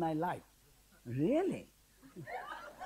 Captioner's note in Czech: smích